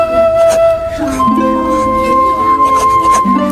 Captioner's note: the sound of scholarly recitation